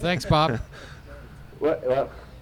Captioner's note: Pete laughs